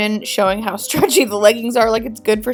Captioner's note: chuckling